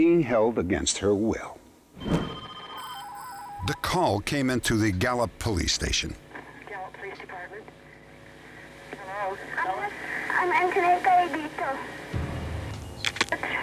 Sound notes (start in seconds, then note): 6.9 on phone; 10.3 on phone